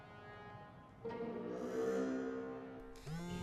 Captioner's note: phone buzzing